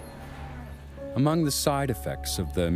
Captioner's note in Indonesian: Voiceover